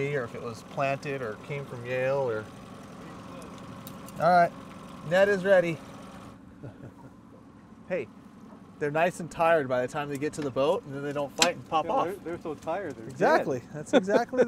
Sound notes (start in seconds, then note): 8.1 chuckling; 8.7 boat engine idling